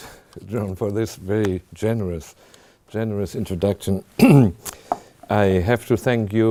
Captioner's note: clears throat